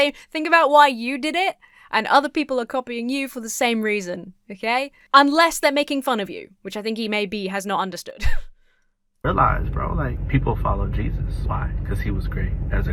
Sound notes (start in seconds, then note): 8.5 wheezes